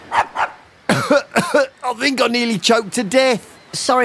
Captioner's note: coughing